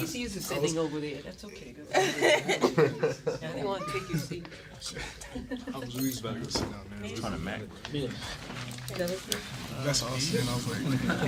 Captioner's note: murmur